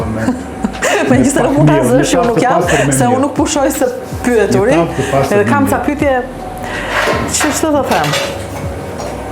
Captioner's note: laughs